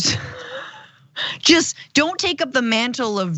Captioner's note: laugh